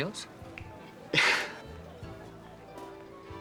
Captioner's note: laughs